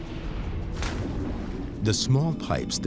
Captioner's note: water splashes